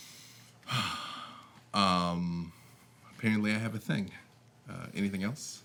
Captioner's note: breathes deeply